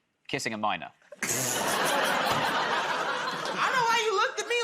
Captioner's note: laughter